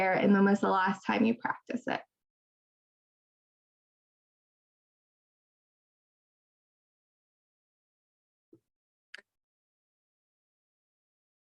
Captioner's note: long pause